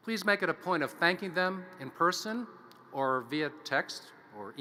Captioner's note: none